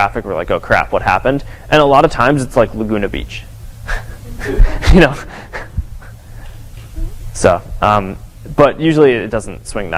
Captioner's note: chuckles